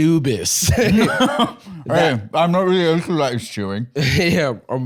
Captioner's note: laughs